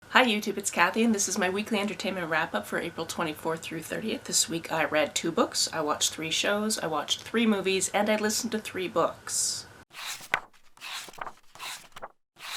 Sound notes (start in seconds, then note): 9.9 pages turning